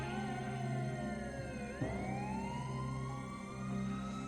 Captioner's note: sirens wail